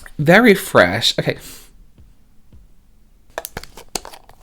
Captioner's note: sniffing